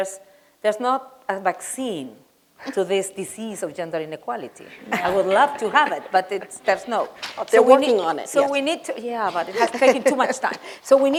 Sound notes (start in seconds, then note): 4.4 laughter